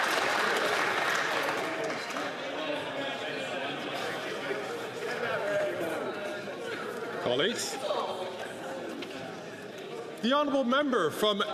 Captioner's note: some Applause